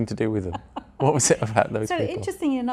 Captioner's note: laughs